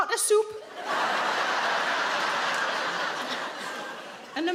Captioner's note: audience laughing